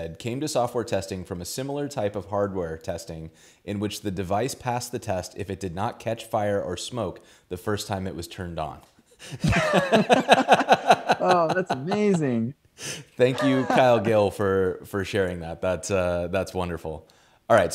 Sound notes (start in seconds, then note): 9.3 laughs